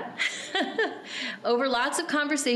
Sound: laughing

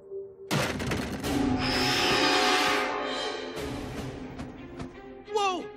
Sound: squealing

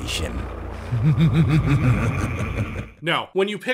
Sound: reverberated evil laugh

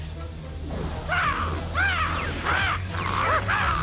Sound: screeching

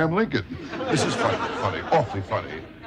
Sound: audience laughs

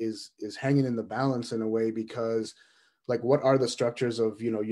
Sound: none

